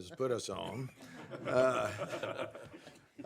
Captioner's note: laughter